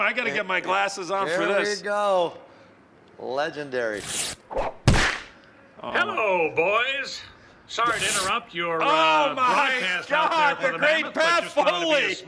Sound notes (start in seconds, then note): 4.5 smack